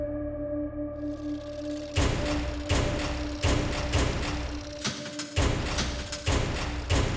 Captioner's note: typewriter keys echoing